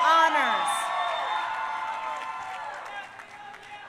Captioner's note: crowd cheering